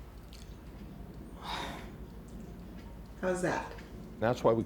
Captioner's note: exhales sharply